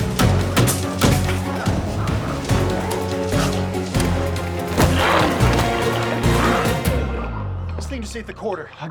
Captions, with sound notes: (hammer banging) (intense music continues) - This thing just ate the quarter.